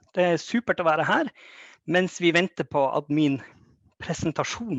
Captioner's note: speaks Norwegian